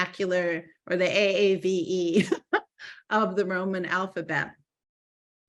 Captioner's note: laughing